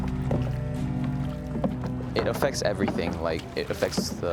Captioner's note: paddles splashing